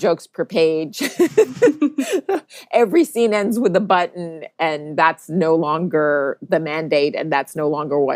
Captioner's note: both laugh